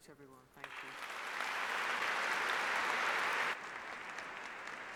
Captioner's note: applause